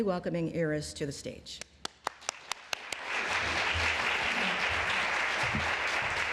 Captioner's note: applause